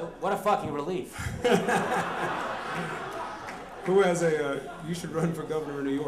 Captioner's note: laughter